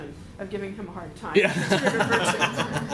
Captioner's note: laughter